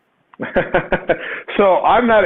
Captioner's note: laughs